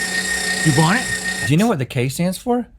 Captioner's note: meat grinder sounds